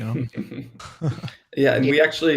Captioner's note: laughs